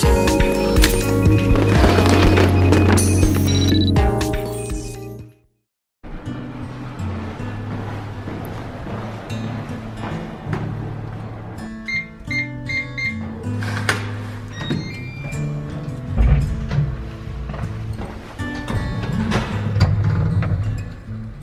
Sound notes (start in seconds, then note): 6.1 acoustic guitar strumming; 11.8 beeping